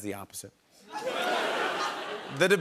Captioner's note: laughter